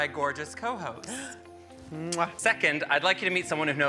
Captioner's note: gasps and smacks lips